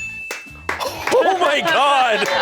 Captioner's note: bell chimes; crew applauds